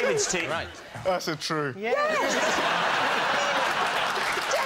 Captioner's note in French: rires